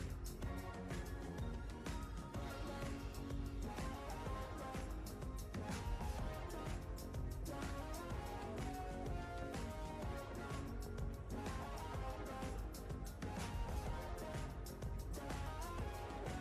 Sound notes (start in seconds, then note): none